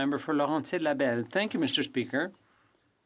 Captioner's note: speaking French